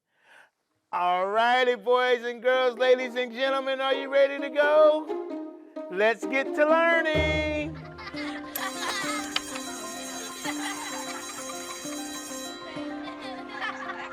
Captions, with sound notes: All righty, boys and girls, ladies and gentlemen, are you ready to go? Let's get to learning! (children laughing) (bell rings)